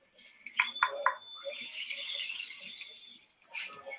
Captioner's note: beeping